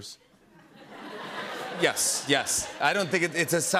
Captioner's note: laughter